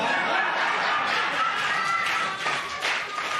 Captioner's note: laughter